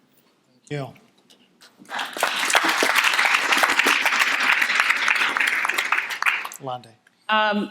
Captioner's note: audience applauding